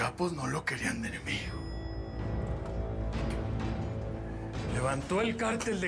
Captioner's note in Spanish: timbre del ascensor